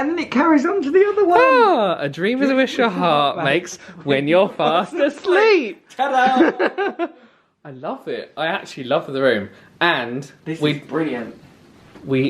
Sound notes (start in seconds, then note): 6.0 laughs